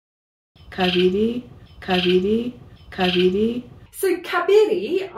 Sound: bird chirp

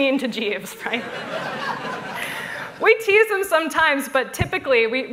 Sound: laughter

